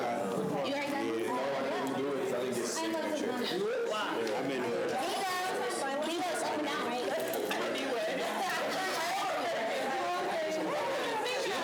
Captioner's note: students chatter